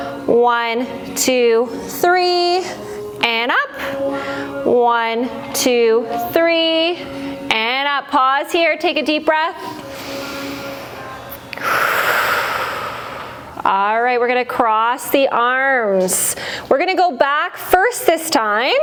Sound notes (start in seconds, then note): 11.6 breath